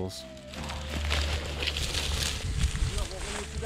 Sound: rustling

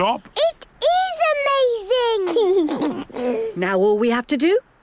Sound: George giggles

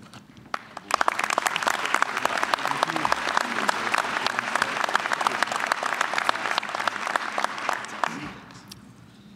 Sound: applause

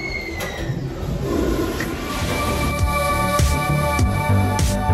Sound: Moaning Myrtle's voice plays in bathroom; upbeat music plays

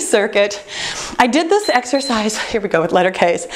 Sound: timer beeps

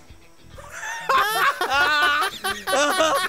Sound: laughing

